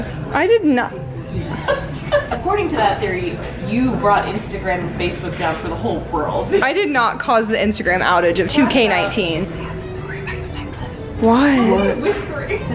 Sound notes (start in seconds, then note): 1.4 laughs